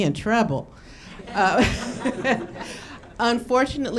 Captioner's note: audience laughing